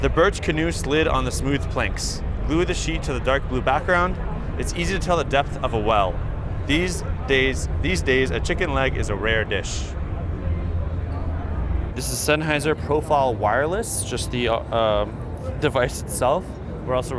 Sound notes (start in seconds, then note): 10.6 crowd chattering